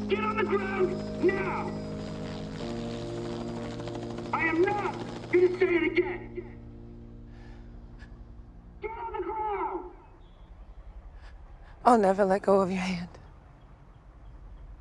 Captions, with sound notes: Get on the ground now! (helicopter rotor blades whirring) I am not gonna say it again! Get on the ground! - I'll never let go of your hand.